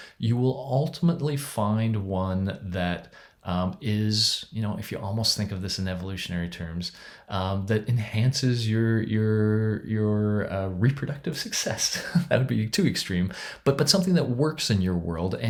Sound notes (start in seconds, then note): 11.9 chuckles